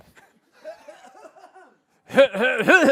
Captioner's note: coughs